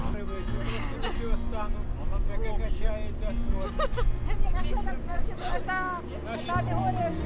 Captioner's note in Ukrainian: сміх